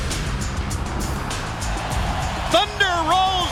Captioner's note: crowd cheering